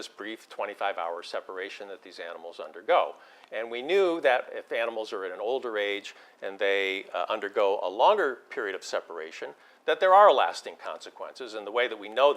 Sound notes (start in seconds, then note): none